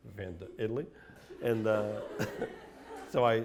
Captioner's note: laughter